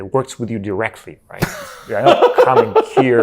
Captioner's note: laughing